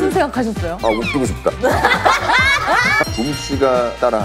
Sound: laugh

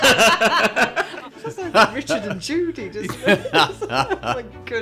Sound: laughter; laughter

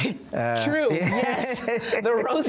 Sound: both laughing

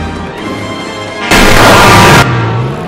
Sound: Dayman Screech

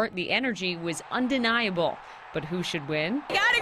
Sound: cheering and applause

